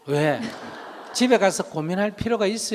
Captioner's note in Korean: 청중웃음